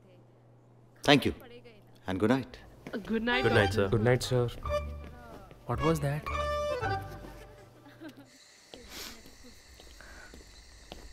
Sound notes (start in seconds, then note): 8.6 Footsteps; 8.7 Sniffs